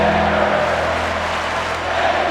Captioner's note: audience clapping